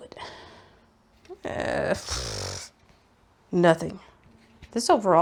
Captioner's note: unsure noises, raspberries